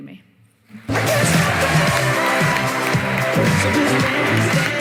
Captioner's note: cheering, applause